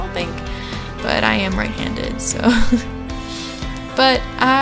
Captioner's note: laughter